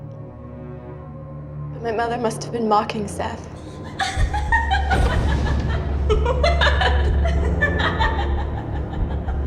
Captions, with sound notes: but my mother must've been mocking, Seth. (Heather laughing)